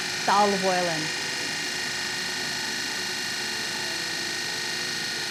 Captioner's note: processor whirring